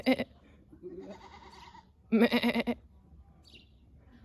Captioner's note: mutual bleating with the goat